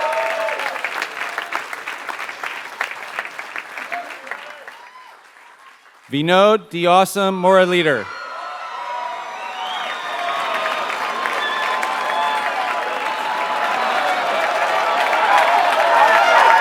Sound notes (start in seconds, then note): 0.0 applause